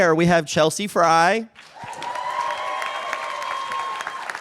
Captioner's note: cheers and applause